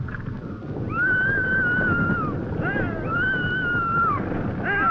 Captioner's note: Betty screaming